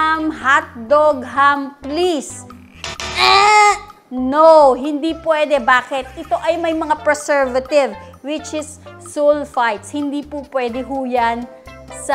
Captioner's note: buzzer sound